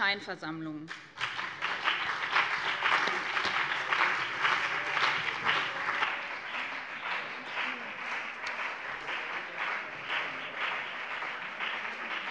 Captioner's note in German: Beifall BÜNDNIS 90/DIE GRÜNEN und vereinzelt CDU